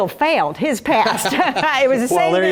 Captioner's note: laugh